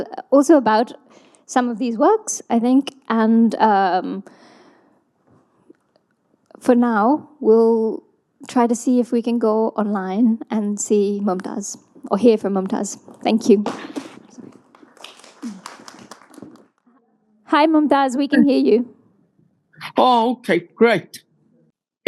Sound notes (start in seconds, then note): 15.7 audience applauding